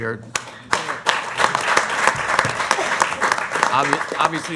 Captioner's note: applause